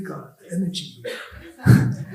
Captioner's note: laughs